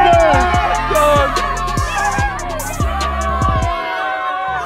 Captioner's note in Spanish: vítores de la multitud